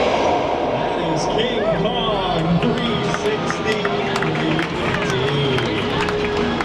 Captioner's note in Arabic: الراكبون يصفقون